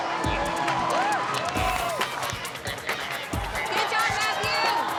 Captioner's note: crowd cheers